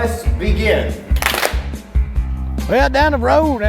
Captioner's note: hands clap